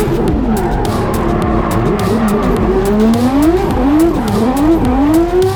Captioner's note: race car revving continues